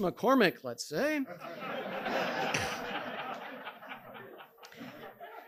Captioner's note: audience laughing